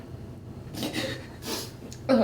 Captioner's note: sollozando